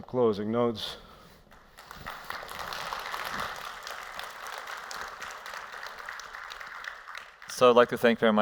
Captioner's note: applause